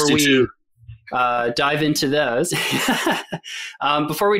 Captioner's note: laughs